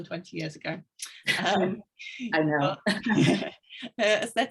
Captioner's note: women chuckling